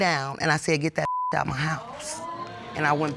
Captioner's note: audience exclaims